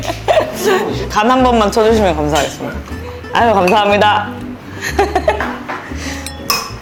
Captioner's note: clinking glasses with them~!!